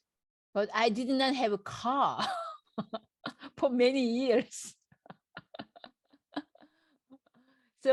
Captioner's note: laughs